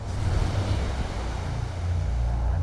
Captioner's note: airplane noise